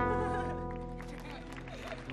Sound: audience clapping; woman laughs; gentle guitar music

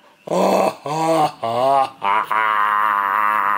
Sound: crying

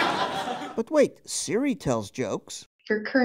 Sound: audience laughing

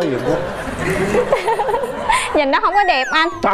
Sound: audience laugh

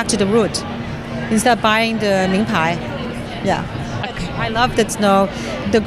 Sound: foreign language

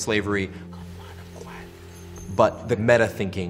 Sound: quiet Voice

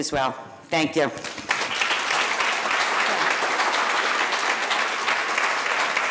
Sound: audience applauding

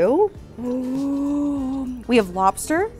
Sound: gasps

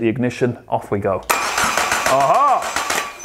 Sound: engine start

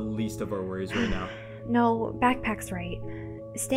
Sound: sighs

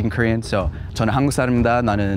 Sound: speaks Korean

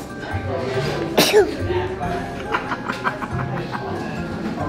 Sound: sneezing

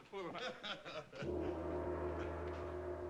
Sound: laughter

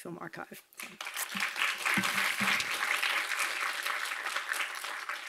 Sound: audience applauding

